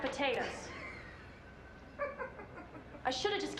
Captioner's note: Rachel laughing